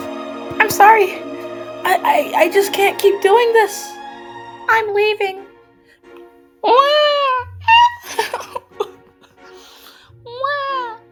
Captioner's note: sigh